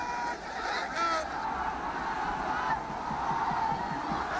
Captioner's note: cheering